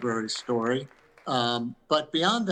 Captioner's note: audience claps